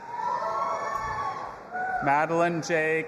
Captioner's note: audience applauding and cheering